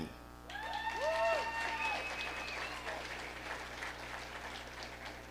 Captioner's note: audience applauding